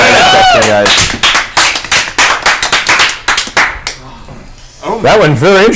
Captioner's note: all cheer